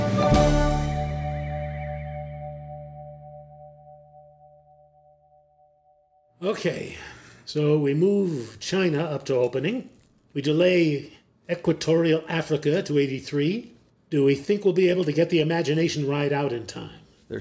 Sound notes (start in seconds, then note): none